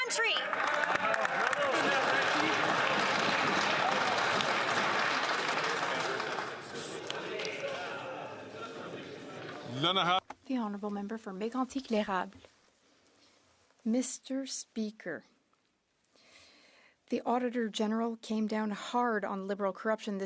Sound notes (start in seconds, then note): 7.1 some Applause